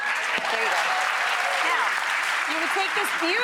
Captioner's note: audience applauding